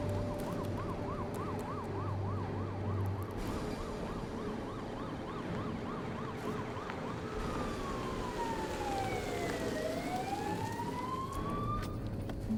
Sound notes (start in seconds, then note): 0.0 ominous music continues; 0.7 siren blaring